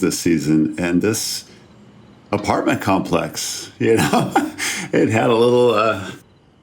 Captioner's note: laughs